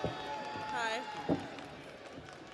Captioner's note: audience applauds; audience cheers